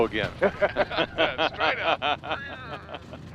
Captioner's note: both laughing